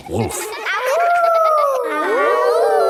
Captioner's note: howling; kids howling